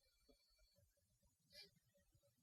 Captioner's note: sniffs